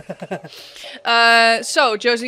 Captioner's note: laughter